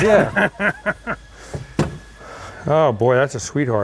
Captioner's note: laughs; wheelbarrow thudding